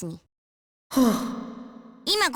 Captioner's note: whew!